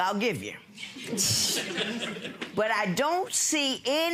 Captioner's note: audience laughing